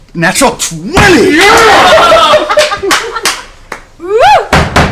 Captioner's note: cheering